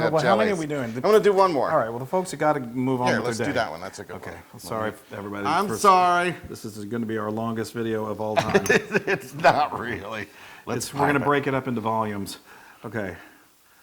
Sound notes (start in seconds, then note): 8.4 laugh